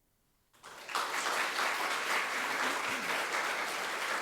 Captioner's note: audience clapping